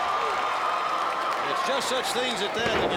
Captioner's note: crowd cheering